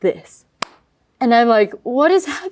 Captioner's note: claps